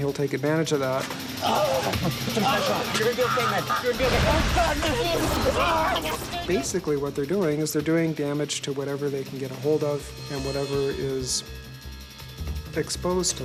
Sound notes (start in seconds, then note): 1.4 crying in pain; 5.9 mumbling in agony